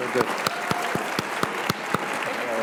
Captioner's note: applause